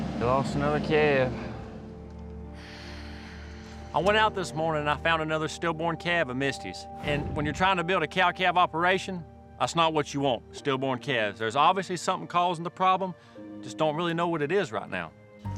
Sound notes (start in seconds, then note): 2.5 sighs deeply